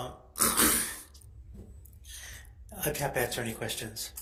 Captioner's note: clears throat